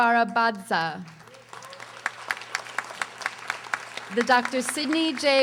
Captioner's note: audience applauding